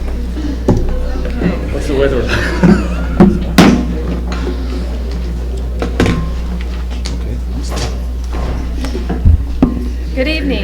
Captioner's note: crowd chattering